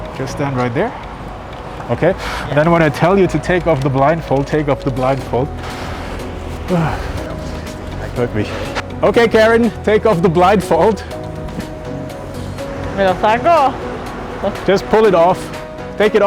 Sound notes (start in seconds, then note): 5.7 nervous sigh; 13.2 speaks in Spanish